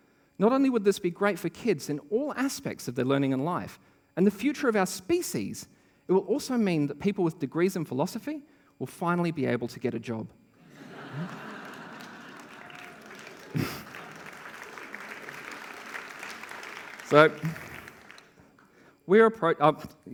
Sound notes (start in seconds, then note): 10.6 laughter; 13.7 applause